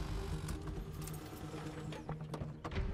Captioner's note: none